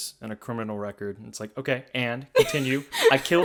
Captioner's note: laughs